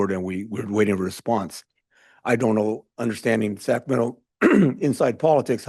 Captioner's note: clears throat